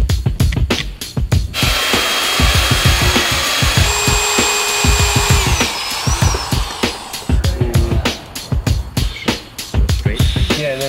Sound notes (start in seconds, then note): 1.5 saw cutting through metal; 4.1 drill drilling